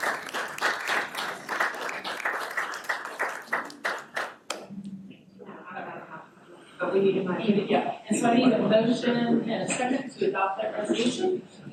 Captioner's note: applause